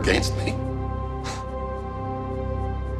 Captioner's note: scoffs